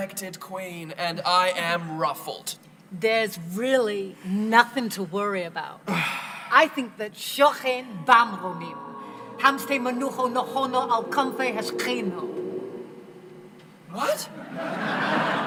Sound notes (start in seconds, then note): 5.9 sighs; 7.4 speaking Hebrew; 14.4 laughter